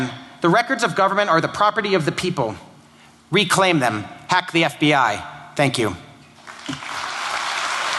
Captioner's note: applause